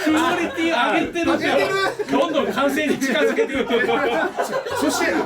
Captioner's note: laugh